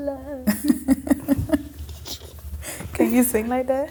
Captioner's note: laughing